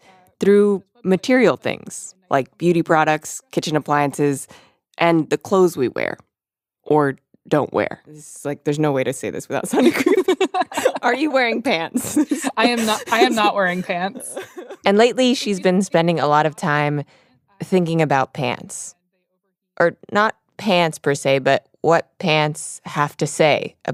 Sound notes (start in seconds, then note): 9.7 both laugh